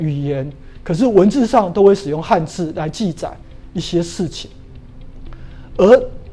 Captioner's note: chinese words